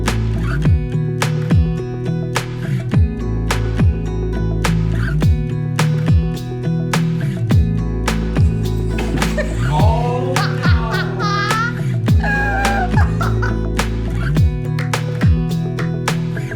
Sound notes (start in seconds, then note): 0.1 gentle music; 9.4 wheelchair bangs; 10.4 laughs; 13.9 gentle music